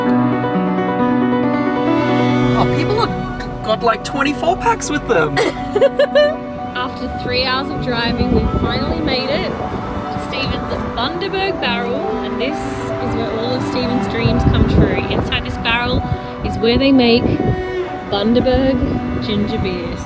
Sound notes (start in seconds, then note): 5.3 laughing